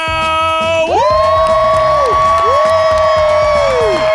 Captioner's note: audience cheers